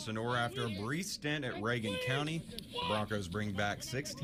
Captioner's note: man shouting